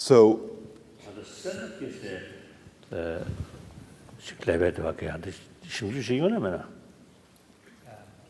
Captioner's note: foreign Language